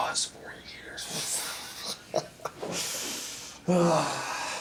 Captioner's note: Randall laughs; Randall sighs